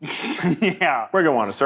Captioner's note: laughs